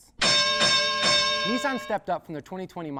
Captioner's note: bell clanging